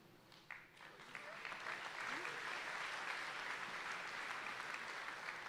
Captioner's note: audience applauding